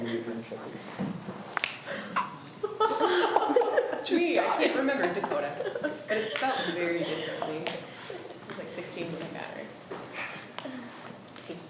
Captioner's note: students talk amongst themselves